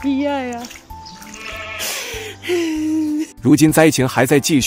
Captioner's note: sobbing